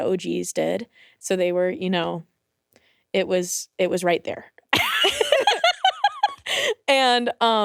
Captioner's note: laughs